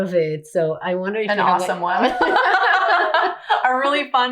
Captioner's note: both laughing